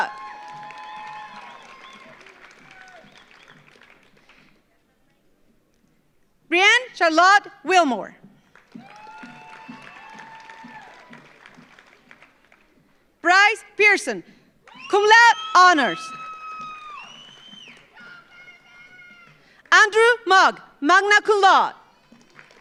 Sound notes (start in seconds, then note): 0.0 audience cheers; 0.0 audience applauds; 8.4 audience applauds; 8.6 audience cheers; 16.0 audience applauds; 16.3 audience cheers